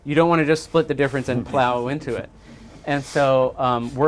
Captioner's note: chuckles